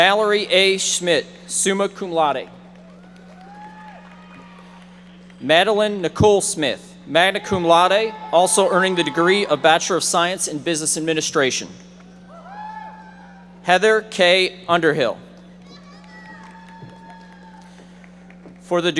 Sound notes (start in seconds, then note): 2.6 audience applauding; 15.6 audience applauding